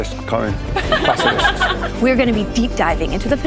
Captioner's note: laughter